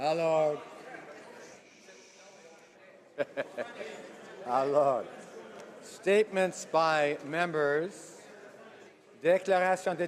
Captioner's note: speaking French